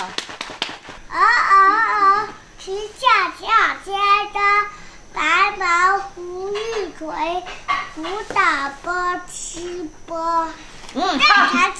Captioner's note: he is reciting the Chinese poem